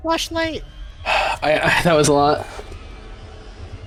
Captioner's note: sigh